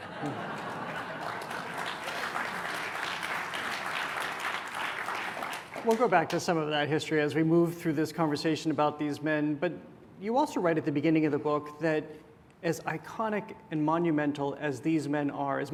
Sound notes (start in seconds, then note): 0.0 laughter; 2.4 applause